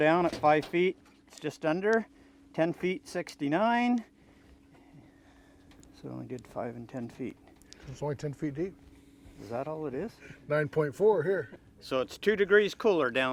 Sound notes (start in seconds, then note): 11.7 chuckling